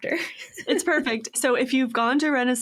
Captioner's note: laughs